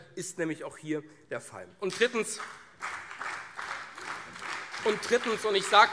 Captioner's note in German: Beifall CDU, SPD und vereinzelt BÜNDNIS 90/DIE GRÜNEN